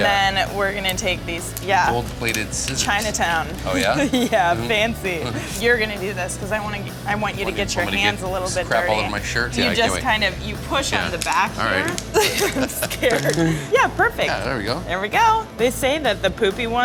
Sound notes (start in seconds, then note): 3.6 laughs; 11.9 laughs